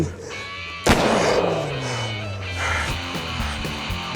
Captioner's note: gun firing